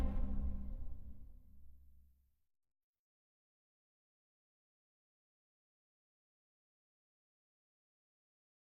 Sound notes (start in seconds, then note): 3.4 silence